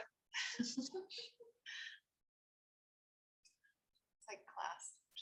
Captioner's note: chuckling